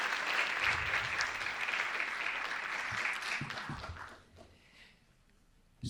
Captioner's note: audience applauding continues